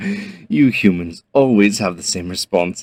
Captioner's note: speaker chuckles